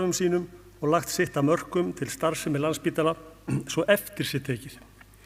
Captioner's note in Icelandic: ræskir sig